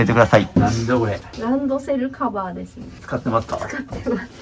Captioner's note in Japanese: 咳払い; 笑い